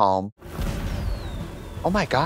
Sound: explosion booms; exciting music

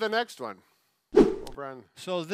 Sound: swift whooshing

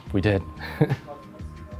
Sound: laughs

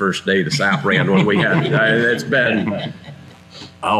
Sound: folks laughing

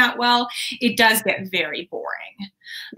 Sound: murmurs

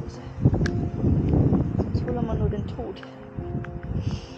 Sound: melancholy piano music; strong wind

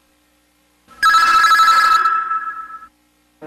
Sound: communication signals dialing

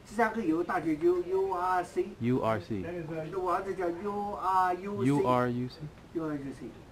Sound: mandarin

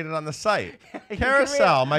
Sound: laughs

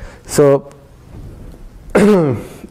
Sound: cough

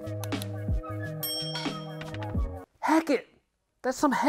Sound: rhythmic music; bell dings

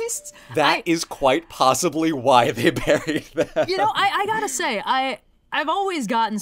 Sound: laughs; laughs

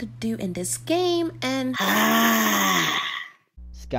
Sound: dezree groans

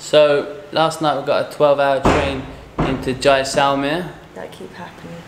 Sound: knocking sound

